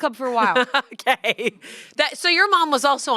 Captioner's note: laughs